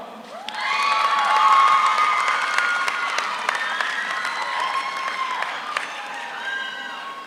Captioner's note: audience applauds; audience cheers